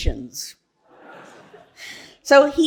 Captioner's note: audience laughing